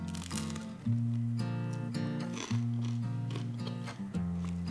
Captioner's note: A crisp, crunchy sound